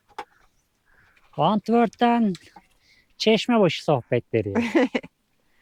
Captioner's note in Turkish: kahkaha